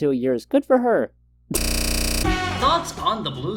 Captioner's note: datamoshed laugh